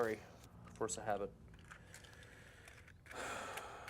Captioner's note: sighs